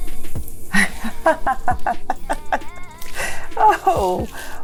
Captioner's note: laughter